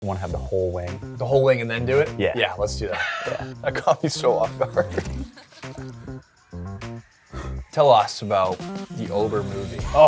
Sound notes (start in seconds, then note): 7.3 sigh